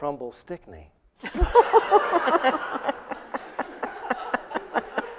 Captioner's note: audience laughs